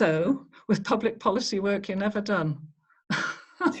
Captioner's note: chuckles